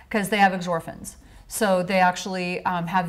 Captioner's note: none